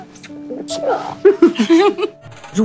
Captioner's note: All laughing